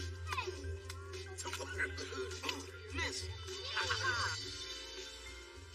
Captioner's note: laughs